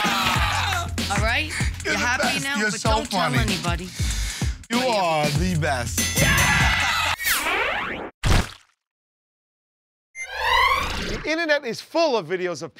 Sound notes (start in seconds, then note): 0.0 laughter and applause; 6.1 ding!